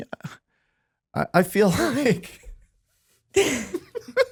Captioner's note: laughing